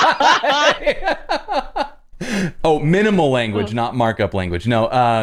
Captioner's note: laughter